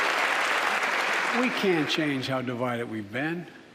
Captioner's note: applause